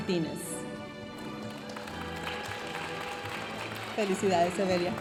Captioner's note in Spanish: aplausos de la audiencia